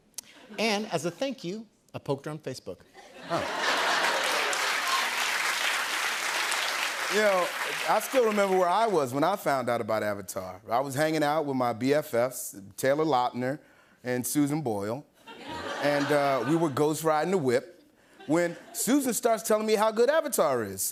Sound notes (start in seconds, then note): 3.8 cheers and applause